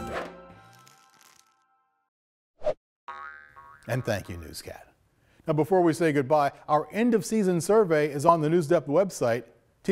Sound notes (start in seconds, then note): 0.2 logo slashing; 3.1 globe pinging